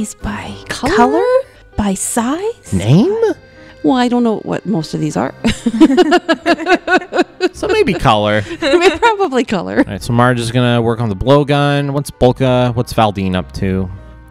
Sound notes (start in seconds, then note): 5.4 laugh